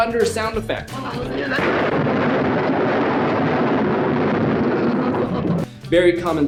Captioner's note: thunder sound effect